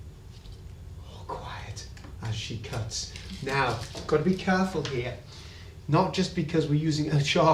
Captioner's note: whispers